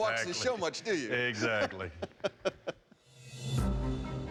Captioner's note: laughs